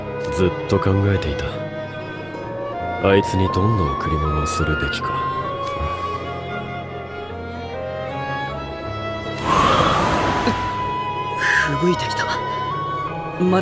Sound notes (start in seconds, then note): 9.4 wind blows